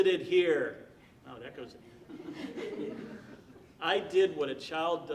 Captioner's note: audience laughing